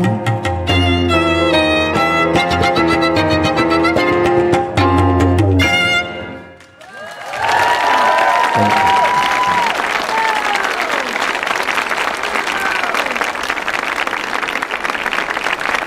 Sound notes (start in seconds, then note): 0.0 upbeat instrumental music; 7.0 audience applauding